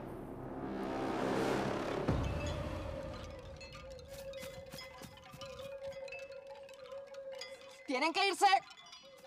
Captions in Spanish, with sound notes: [tintineo] ¡Tienen que irse!